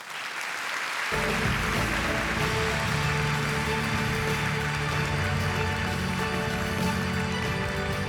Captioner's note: applause